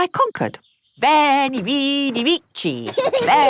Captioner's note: laughing